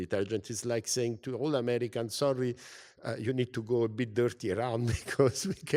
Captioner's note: laugh